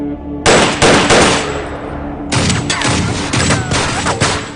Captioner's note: guns firing